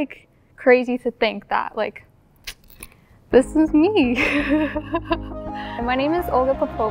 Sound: laughing

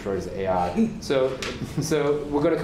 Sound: laughter

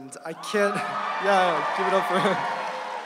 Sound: audience cheering

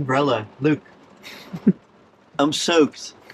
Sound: giggles

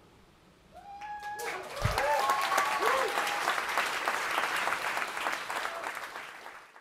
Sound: applause

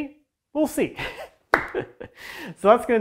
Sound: laughing

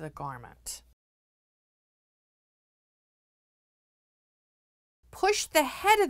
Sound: no Sound Present

